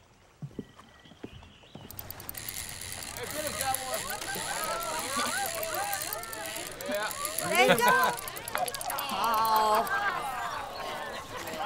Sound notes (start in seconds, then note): 1.6 indistinct shouting, laughter; 8.7 woman groaning